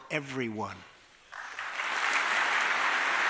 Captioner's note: applause